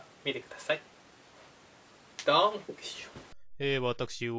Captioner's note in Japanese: ドイツ語